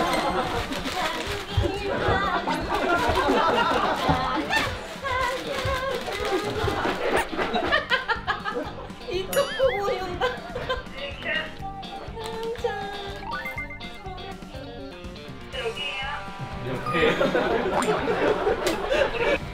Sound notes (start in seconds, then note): 6.4 laughter